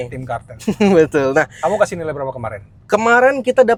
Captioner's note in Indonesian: tertawa